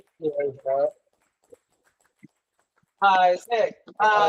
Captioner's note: colleagues clapping